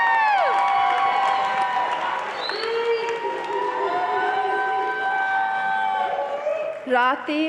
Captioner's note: audience cheering and applauding